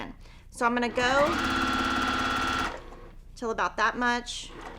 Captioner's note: sewing machine whirs